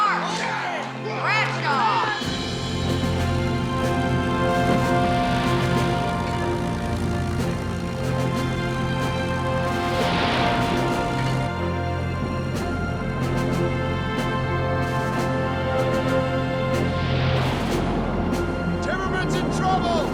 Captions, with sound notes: (upbeat music) (plane engine roars) - Timmerman's in trouble.